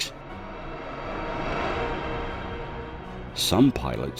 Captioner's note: ghostly whirring; dramatic music